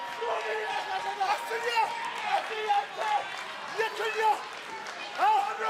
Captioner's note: foreign language spoken